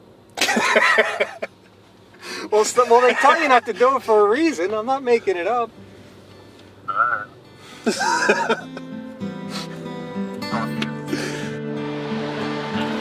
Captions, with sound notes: well they tell you not to do it for a reason I'm not making it up alright [laughing]